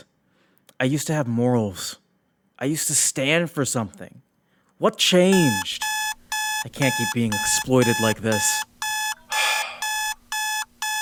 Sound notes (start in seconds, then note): 5.2 alarm Starts Ringing; 9.3 sigh